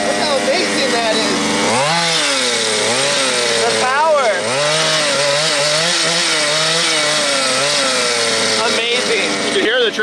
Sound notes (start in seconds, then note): 2.0 engine revving